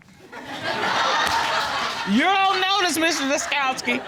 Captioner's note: audience laughing